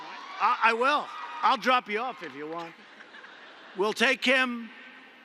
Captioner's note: laughter